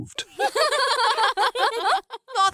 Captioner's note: laughter